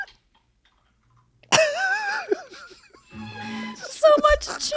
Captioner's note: he laughs; mellifluous music